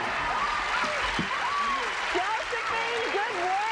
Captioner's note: cheers and applause